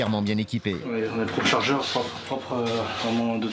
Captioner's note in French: audio parlé en français